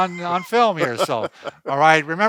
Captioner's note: laughter